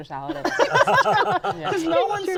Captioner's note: laughter